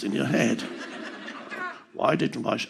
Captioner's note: audience laughing